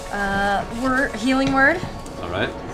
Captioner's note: none